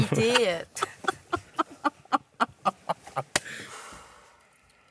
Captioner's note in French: Rires